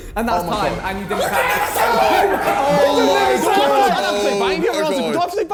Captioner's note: men shouting